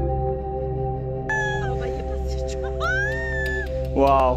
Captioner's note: scream